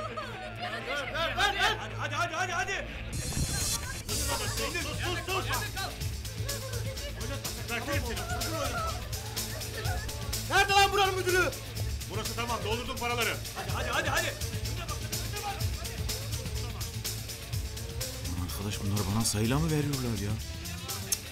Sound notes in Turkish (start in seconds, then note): 6.2 Bağırışmalar